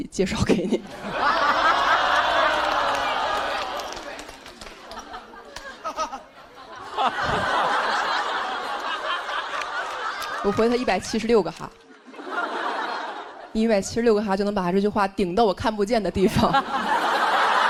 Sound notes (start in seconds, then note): 5.5 haha